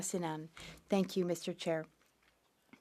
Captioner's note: speaking French